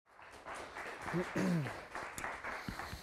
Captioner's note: audience applause